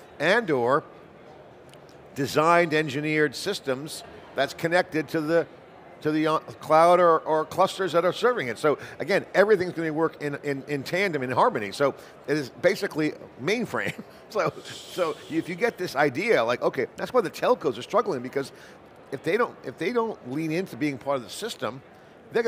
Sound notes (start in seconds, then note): 13.8 chuckles